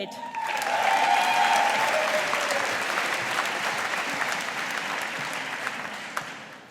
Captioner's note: audience applauding